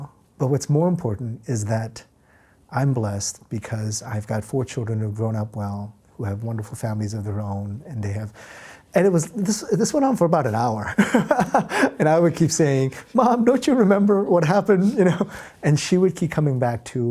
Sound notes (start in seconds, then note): 10.9 laughs